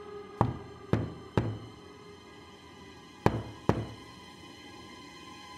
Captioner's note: knocking